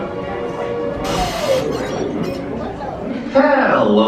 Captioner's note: static scratches